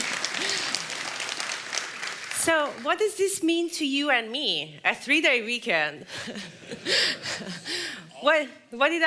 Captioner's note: cheers and Applause